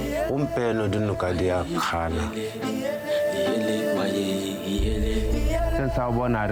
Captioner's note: speakers speaking in foreign language